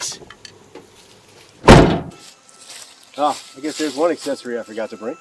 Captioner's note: slam